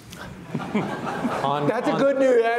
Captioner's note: all laughs